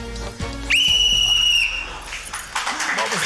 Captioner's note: blows whistle; applause